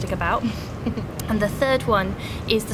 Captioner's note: giggles